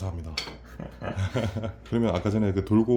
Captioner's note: haha